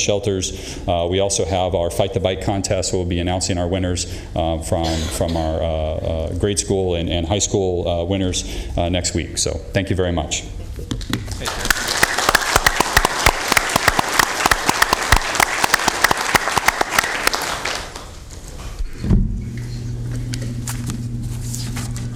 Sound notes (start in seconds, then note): 15.5 applause